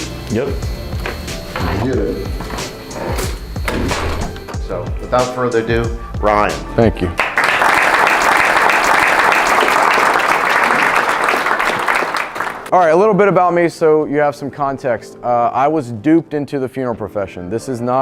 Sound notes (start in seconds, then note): 7.1 audience clapping